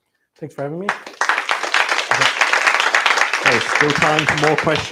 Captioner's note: applause